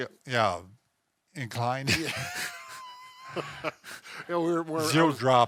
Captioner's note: both laugh